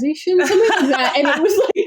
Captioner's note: laughs